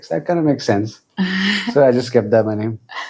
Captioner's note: laughs